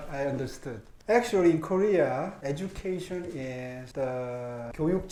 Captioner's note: speaks Korean